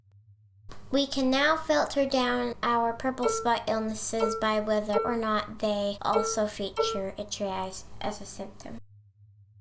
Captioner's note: beep, beep